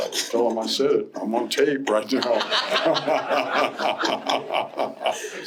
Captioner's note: laughter